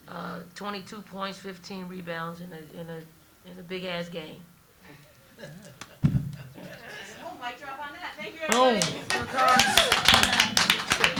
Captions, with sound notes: 22 points, 15 rebounds in a big ass game. (microphone thudding) - We'll mic drop on that. Thank you everybody. - Boom. (spectators applauding)